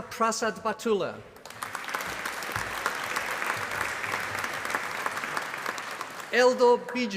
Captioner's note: applause